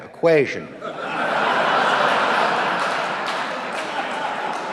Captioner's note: audience laughing